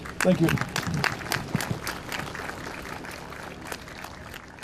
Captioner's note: audience claps